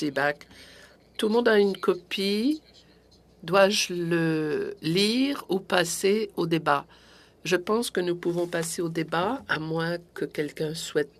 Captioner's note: speaking French